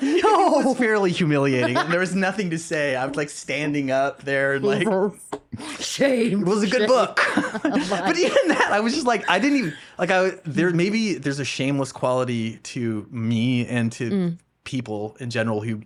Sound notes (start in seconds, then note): 8.2 laughing